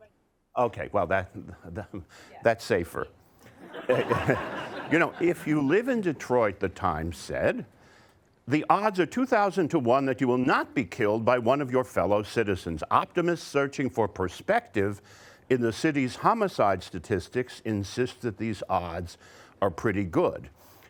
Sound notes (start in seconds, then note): 3.5 audience laughter